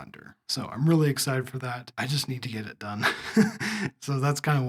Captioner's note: laugh